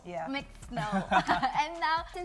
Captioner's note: laughs